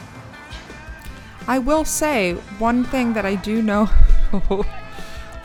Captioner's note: chuckling